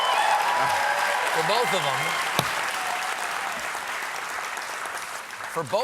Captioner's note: applause